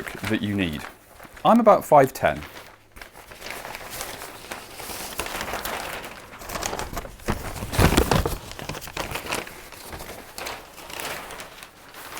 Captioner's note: paper rustling